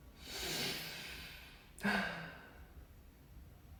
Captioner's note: deep sigh